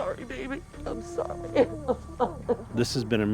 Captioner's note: crying